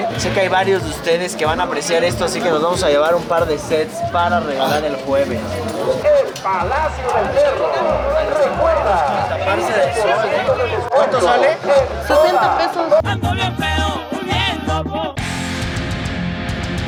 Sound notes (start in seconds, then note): 6.1 screamers speaking in Spanish